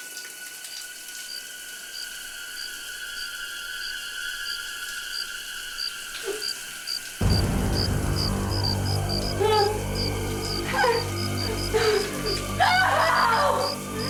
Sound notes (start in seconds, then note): 6.0 crickets chirping; 10.9 panicked shouting